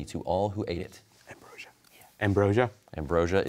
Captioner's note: whispers